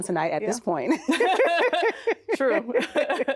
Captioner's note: both laughing